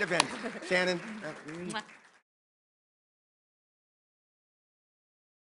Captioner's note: applause